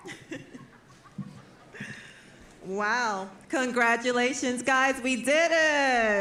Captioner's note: chuckles